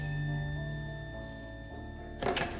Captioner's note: old Phone Rings